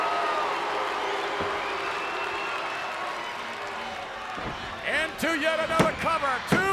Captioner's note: applause